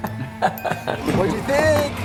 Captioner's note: laughing